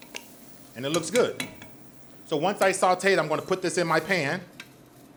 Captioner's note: spoon taps